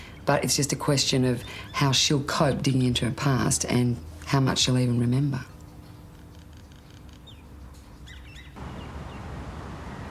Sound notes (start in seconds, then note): none